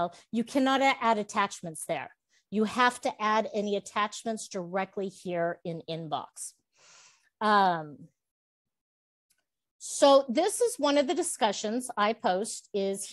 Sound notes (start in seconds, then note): none